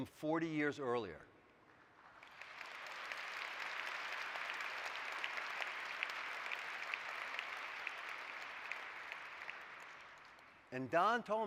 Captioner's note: applause